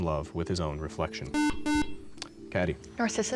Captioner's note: buzzer